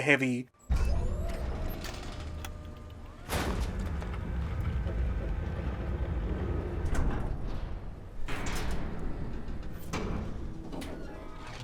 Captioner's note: flaccid mechanical clanking and whirring